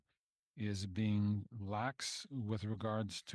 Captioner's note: speaking French